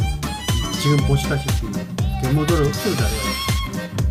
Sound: voiceover

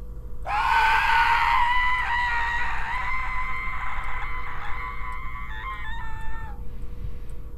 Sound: screams

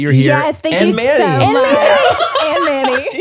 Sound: everyone laughs

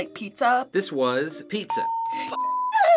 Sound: ding

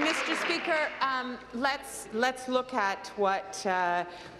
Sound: applause

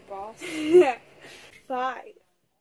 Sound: laughs

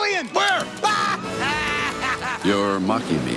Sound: laughs

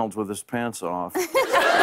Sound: laughter

